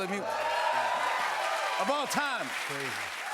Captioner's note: cheers and applause